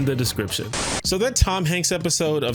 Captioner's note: TV static